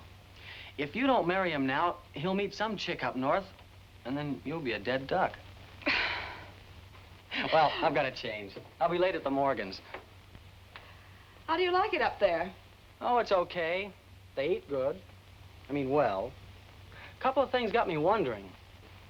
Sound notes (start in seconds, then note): 5.7 mother giggles